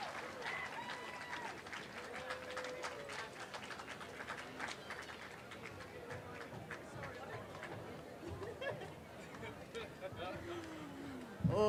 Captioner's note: applause